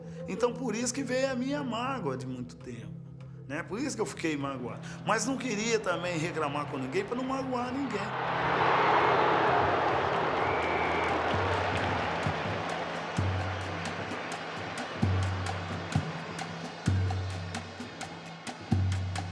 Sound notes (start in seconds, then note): 8.2 crowd cheering; 12.9 slow Brazilian music playing